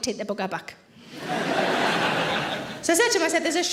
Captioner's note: audience laughing